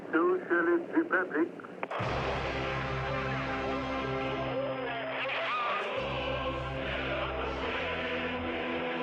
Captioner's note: Gagarin speaking over radio